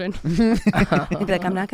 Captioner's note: laughs